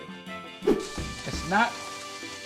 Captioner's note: air whooshing